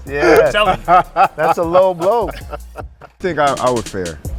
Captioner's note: Spice laughing; upbeat music